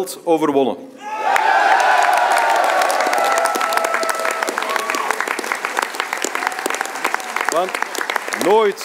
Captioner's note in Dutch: applaus